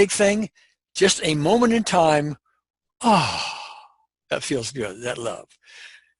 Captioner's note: sighs